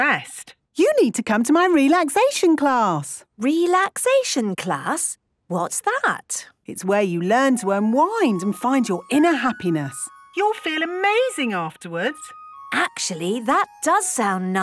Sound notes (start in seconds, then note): none